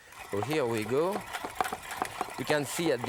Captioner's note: food mill whirring